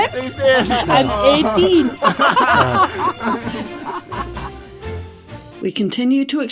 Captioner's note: much laughing; more laughing